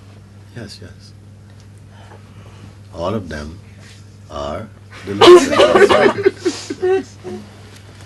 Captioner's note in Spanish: risas